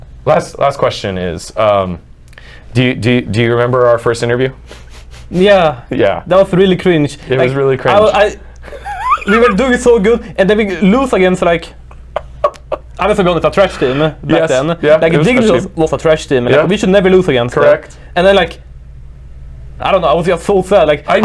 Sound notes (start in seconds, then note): 8.6 laughing